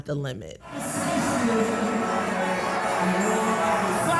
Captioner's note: crowd chanting